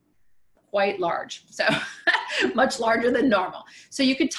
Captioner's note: laughs